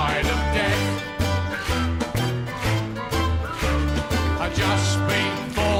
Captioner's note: whistles